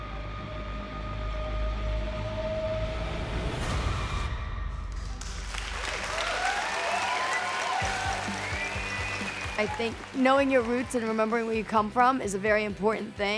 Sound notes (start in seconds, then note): 5.2 cheering